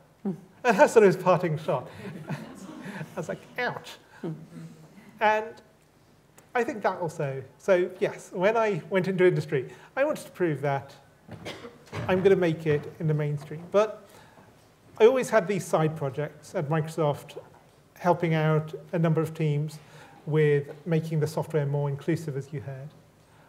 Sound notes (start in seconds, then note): 2.0 laughter